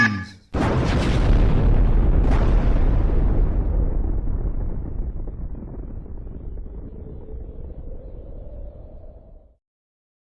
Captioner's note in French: explosions partout